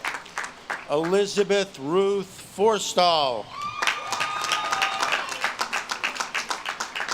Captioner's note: audience claps and cheers